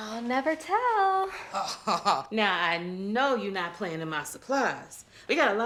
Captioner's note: laughs